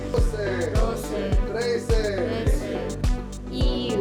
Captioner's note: counting in Spanish